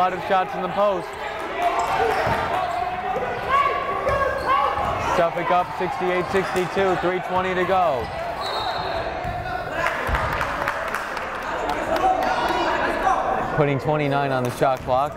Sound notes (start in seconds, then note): 2.7 yelling; 8.4 whistle blowing; 14.1 yelling